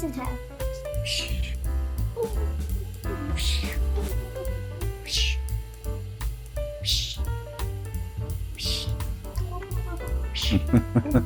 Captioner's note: fighting sounds; laughter